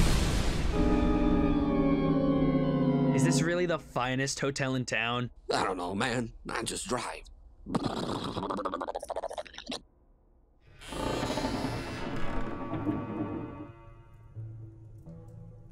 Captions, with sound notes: Is this really "the finest hotel in town"? I dunno man. I just drive. [Imitates car driving sound] [Creaky wooden door open] (Foreboding music)